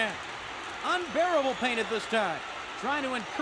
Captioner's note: crowd cheering